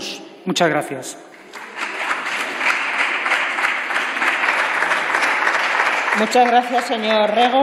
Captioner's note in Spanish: Aplausos